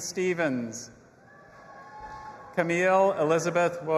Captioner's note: audience applauding and cheering